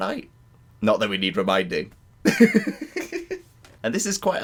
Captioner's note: laughter